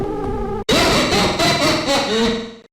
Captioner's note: sinister Laughter